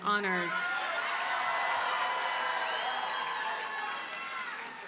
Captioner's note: audience cheers and applauds